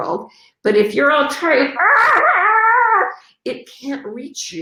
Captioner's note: screams